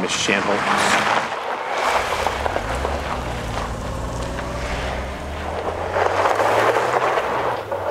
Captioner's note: gravel crunching; car engine rumbling